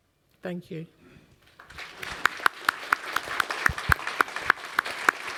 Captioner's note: applause